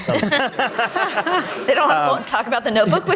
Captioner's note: audience laughing